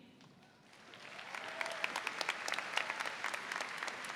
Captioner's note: audience applauds